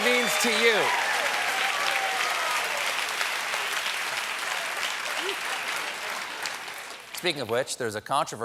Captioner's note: cheers and applause